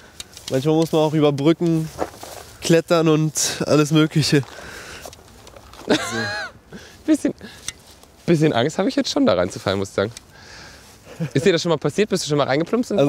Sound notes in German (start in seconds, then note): 5.8 Lachen